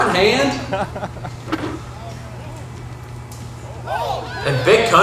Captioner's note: crowd cheers